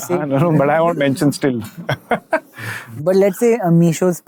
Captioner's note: chuckles coyly